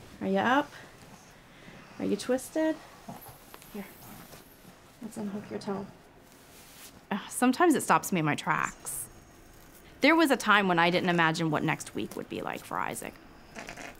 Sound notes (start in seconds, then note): 0.0 rustling; 2.8 rustling; 13.5 scratching